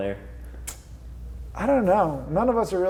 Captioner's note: tongue clicks